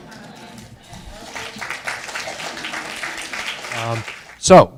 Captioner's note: audience applauding